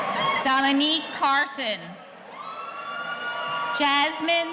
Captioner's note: audience cheering